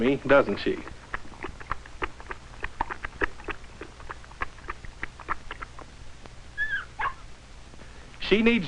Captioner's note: lapping noises